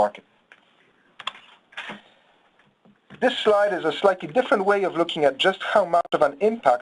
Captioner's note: mouse clicking